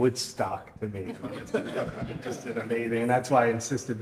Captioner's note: audience laughs